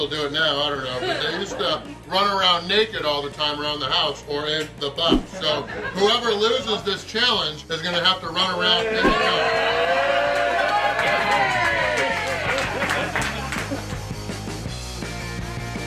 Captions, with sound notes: challenge, is going to have to run around "in the buff" (haha). it now. I don't know, but they used to run around naked all the time around the house or "in the buff," so whoever loses this